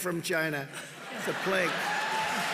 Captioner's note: laughter; laughter and applause